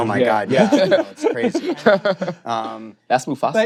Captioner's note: laughter